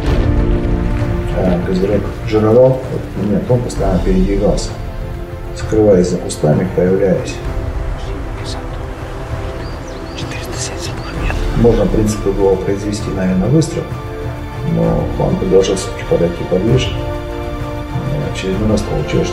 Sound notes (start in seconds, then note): 9.4 whisper